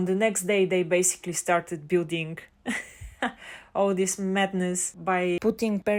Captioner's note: haha